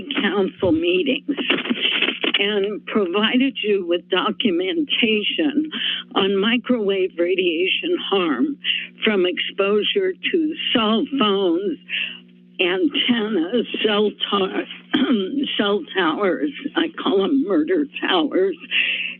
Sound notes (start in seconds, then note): 14.8 coughs